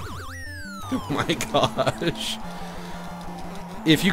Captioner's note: laughs